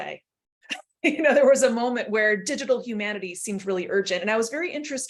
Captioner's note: laughter